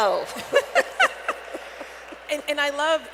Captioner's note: laughter